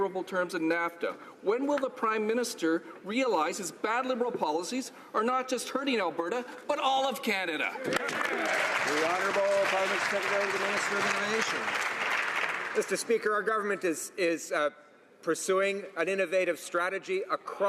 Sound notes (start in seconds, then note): 10.9 some Applause